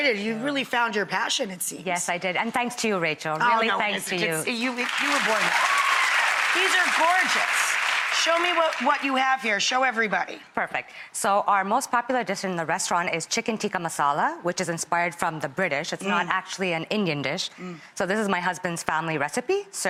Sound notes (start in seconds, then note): 4.5 applause